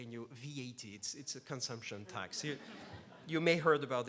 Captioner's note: laughs